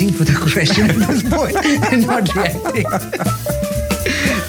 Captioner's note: both laugh